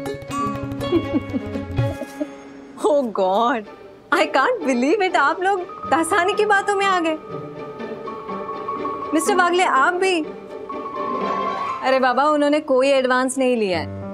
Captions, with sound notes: [laughs] Oh God. I can't believe it. You all believed Dasani? Mr. Wagle, you too? He didn't receive any advance.